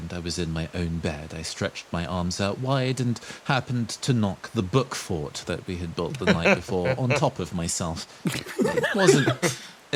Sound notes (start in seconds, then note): 8.3 laughs